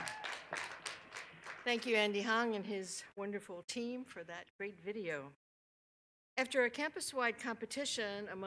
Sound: cheers and applause

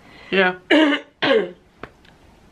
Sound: clears throat

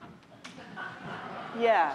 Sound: audience laughing

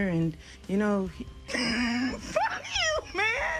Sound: laughs

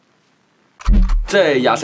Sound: gun clock

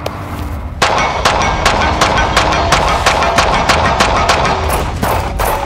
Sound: gunfire popping and pinging

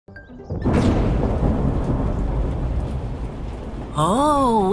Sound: thunder rumbles

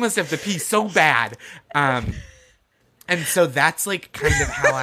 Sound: gasping for air

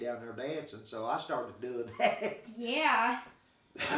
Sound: chuckling

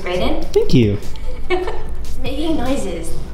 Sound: laughs

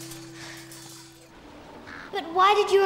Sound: sighs

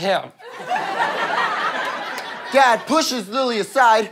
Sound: audience laughter

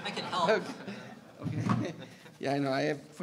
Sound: audience laughing

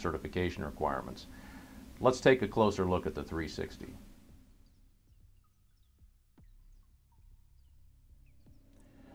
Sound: pause

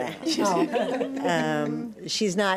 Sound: everyone laughs

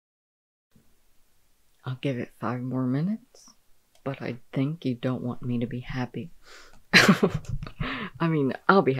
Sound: laughing

